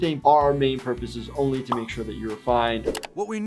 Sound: computer mouse clicks

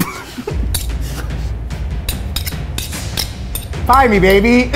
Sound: chuckles; dramatic music; forks clinking

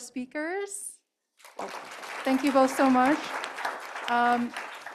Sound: applause

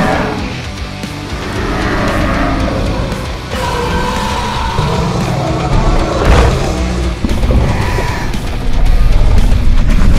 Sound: Scorpius Rex attack sounds

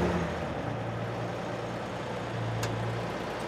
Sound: truck idling

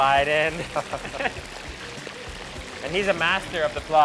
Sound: both laughing

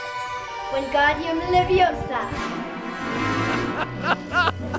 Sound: speaking in foreign language; laughing

